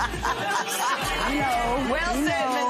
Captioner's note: laughs